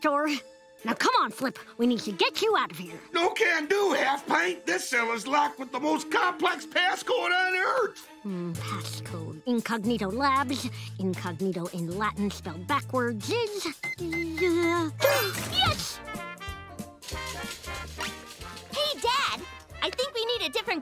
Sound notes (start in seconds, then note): 13.8 button panel beeping